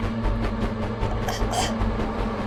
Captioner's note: Shayna choking